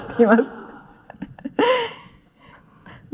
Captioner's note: laughter